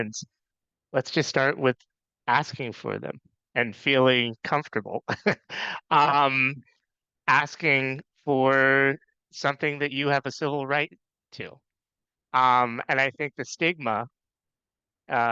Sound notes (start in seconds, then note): 6.3 laughs